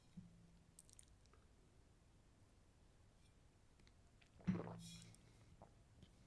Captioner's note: silence